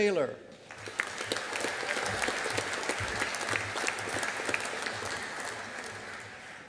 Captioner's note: audience applauding